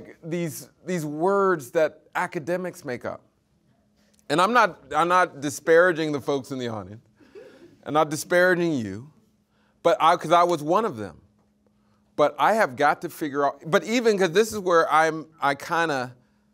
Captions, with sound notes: these words that academics make up. And I'm not disparaging the folks in the audience. (audience laughing) I'm not disparaging you, 'cause I was one of them, but I have got to figure out, 'cause this is where I kinda,